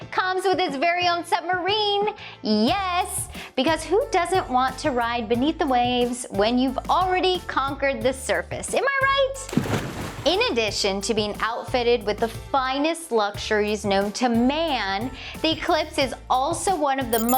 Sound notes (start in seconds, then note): 9.4 water splashing